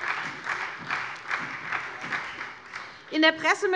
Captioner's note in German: Beifall SPD